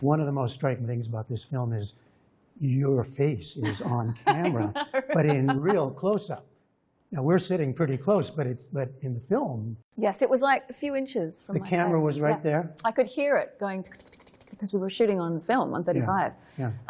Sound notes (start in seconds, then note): 7.1 laughter